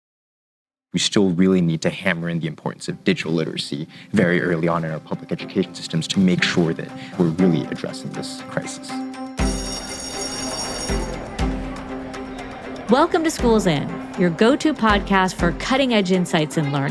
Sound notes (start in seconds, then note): 8.7 upbeat music; 9.3 bell ringing; 11.0 people chattering